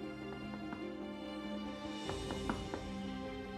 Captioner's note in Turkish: Kapı vurma sesi; Müzik - Gerilim